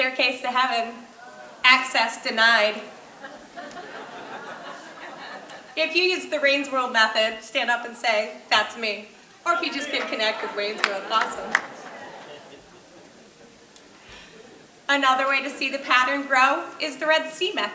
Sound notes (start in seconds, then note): 4.2 audience laughing; 12.7 audience laughing